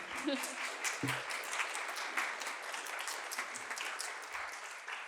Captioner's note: applause